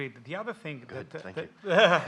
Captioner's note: laughs